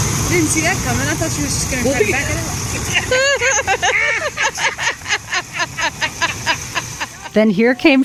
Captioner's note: laugh